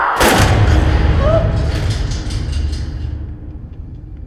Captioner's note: gun firing